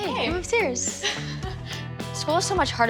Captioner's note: chuckles